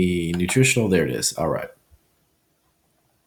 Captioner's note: mouse clicks